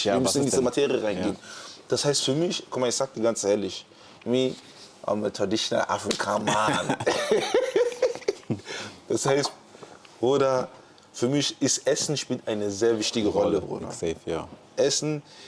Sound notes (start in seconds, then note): 6.7 gelächter